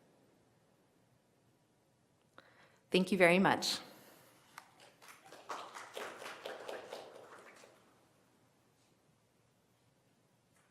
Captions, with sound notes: Thank you very much. (audience applauding)